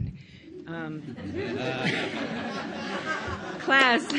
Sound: audience laughs; audience member claps

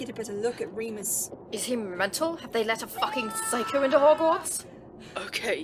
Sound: Remus continues screaming

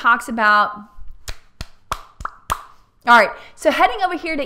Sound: popping sound

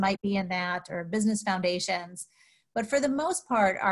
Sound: none

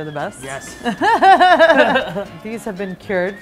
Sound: laughing

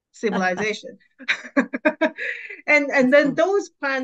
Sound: laughs

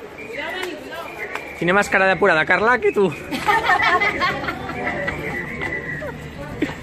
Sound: giggles

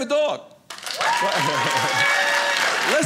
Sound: audience applauding

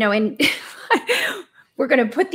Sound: laughs

